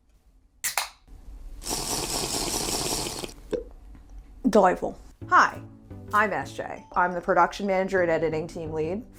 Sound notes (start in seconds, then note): 0.6 can popping; 1.6 slurping sounds